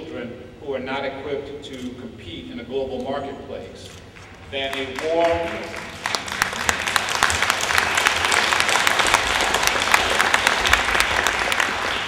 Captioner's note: applause